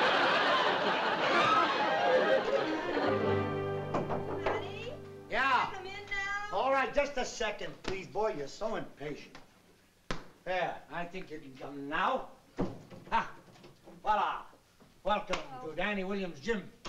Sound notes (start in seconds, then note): 3.9 knocking in door